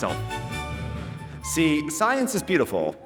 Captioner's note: audience applauding